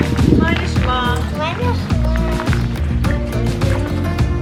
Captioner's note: in Hebrew